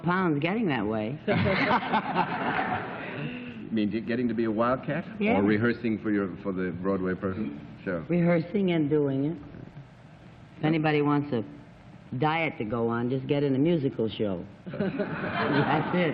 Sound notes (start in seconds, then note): 1.3 laughter